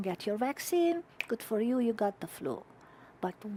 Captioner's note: fingers snap